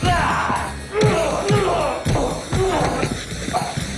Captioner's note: punches thud